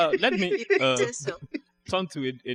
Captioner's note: laughs